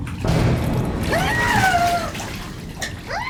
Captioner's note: screaming